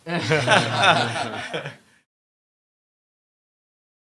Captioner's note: audience laughing